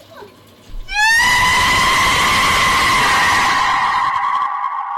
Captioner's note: sound effect - Screaming